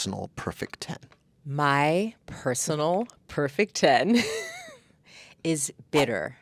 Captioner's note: laughing